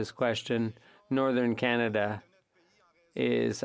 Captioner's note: speaking French